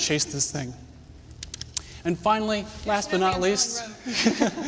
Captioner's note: laughter